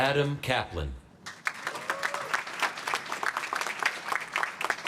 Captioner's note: applause